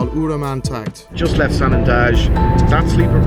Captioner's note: car engine roaring